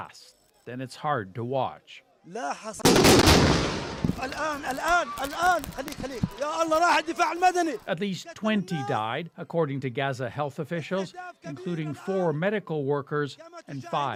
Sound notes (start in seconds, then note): 4.7 blasting; 5.9 speaking Alternate Language